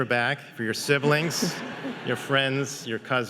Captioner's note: audience laughing